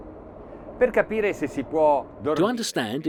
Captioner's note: speaking in foreign language